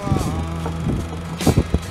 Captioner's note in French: Knocking on door